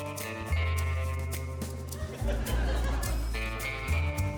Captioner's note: laughter